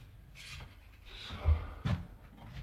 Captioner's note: quietly